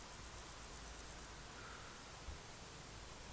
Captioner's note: A light sigh